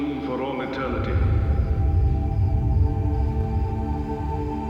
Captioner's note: rumbling